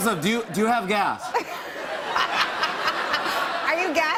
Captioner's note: laughter